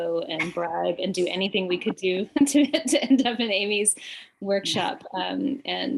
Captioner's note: chuckles